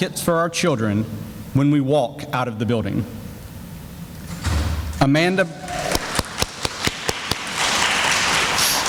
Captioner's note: sounds of applause